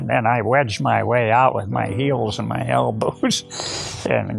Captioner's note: chuckles